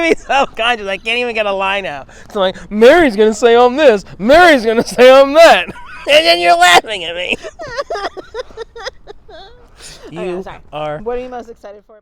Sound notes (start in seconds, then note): 8.0 laughing